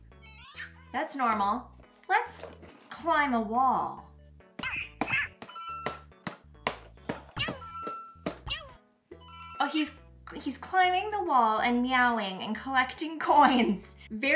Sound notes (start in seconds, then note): 5.7 Mario meowing sounds